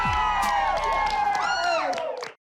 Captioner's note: cheering